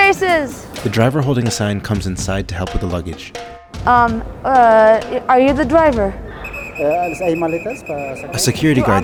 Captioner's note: Spanish